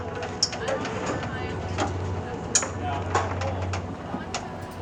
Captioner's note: chains rattling